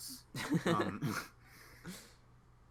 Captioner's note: laughs